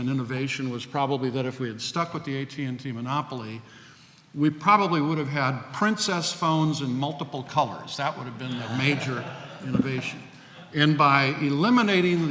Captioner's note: laughs